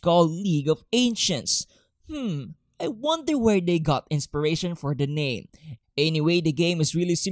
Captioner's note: sarcastically